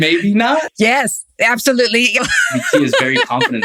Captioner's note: laughs